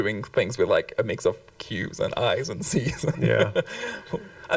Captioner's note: chuckles